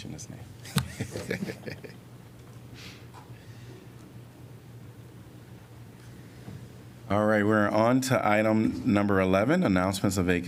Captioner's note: laughter